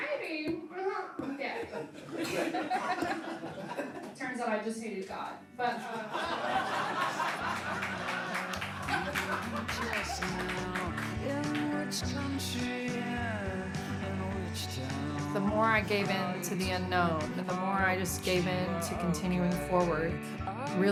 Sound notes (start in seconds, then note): 1.2 laughing; 5.8 laughing; 6.2 audience applause